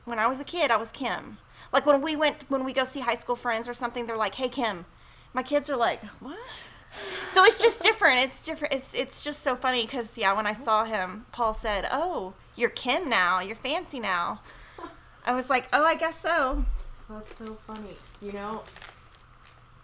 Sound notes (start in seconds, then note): 7.0 laughs; 17.6 ice blocks rattling